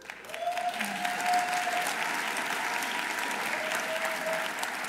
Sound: audience applauding

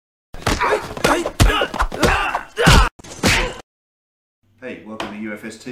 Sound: people fighting and grunting

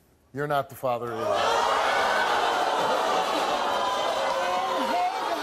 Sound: audience yells

